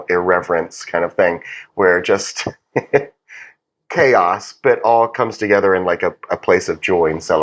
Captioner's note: laugh